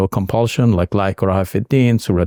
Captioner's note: speaking in Arabic